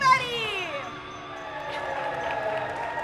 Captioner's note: audience cheers